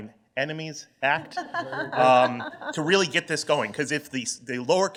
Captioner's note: laughter